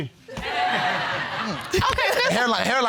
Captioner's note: audience laughing